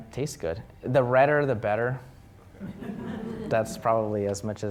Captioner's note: audience chuckling